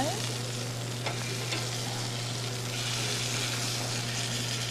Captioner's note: meat sizzling